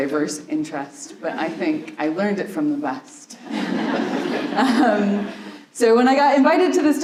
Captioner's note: laughter